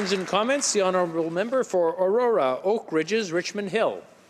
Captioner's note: applause